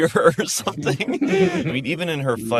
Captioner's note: all laugh